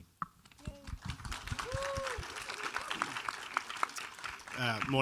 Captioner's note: audience applauds